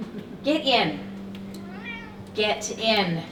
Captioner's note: Casper meows loudly